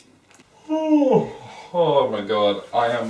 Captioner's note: yawning